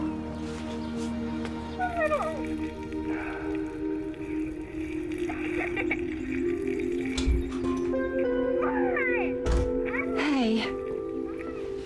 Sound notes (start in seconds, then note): 5.4 kids laughing; 6.1 door closes